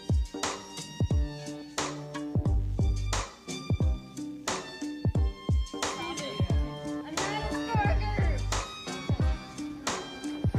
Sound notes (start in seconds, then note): 2.8 ambient music; 6.3 crowd chattering